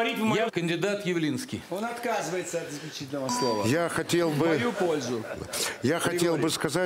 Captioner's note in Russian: смех в зале